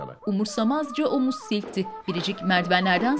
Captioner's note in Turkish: Ayak sesleri